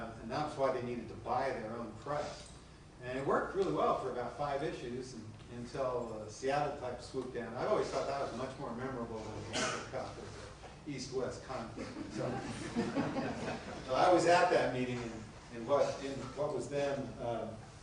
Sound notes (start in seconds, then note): 11.7 laughter